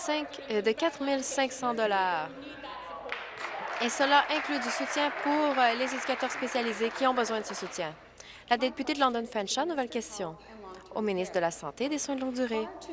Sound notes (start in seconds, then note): 0.0 applause; 7.5 applause